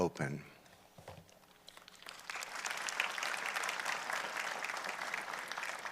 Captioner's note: applause